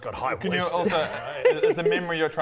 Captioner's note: ominous laugh